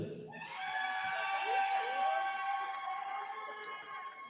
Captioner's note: cheering